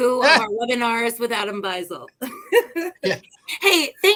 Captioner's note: laughter